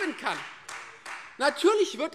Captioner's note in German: Beifall Freie Demokraten